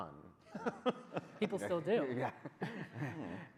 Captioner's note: laughs